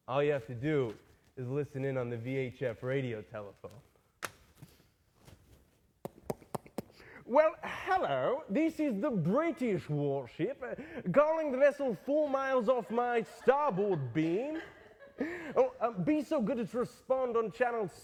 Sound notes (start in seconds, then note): 5.9 imitating tapping on microphone; 7.2 british accent